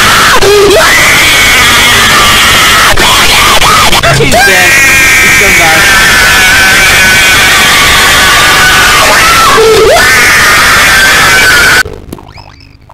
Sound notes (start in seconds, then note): 0.0 screaming!; 0.0 screaming Continues; 3.8 still Screaming